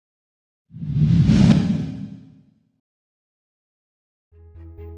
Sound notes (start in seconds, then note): 0.7 logo whooshes